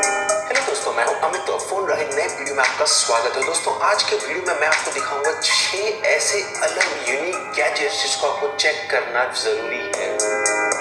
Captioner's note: audio being played on Realme C2